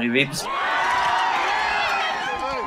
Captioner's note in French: cris de joie